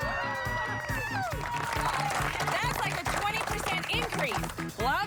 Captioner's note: cheers and applause